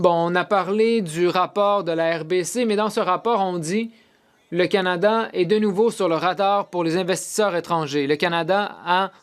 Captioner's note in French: voix de l'interprète